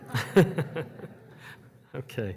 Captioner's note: audience laughs